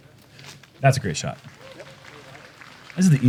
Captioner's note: applause